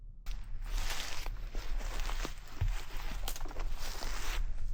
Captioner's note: leaves crunching